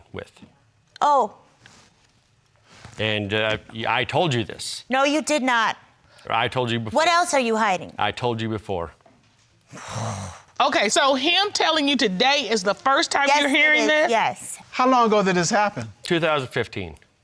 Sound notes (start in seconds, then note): 9.7 sighs frustratedly